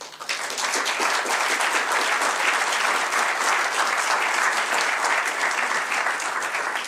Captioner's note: applause